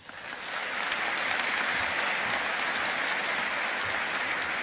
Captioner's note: audience applauding